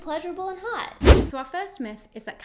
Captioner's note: air whooshing